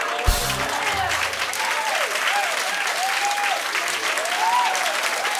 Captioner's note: rimshot; cheers and applause